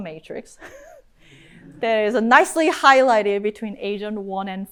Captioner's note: chuckles